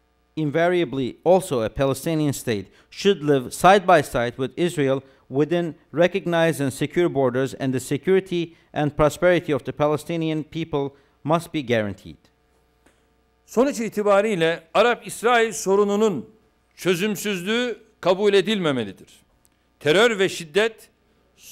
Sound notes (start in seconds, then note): 14.6 non-english speech